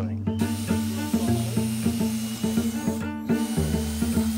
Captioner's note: drill whirring